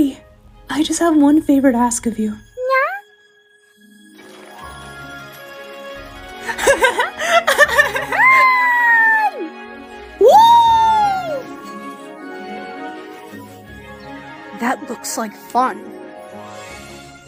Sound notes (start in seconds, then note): 6.5 Amy laughs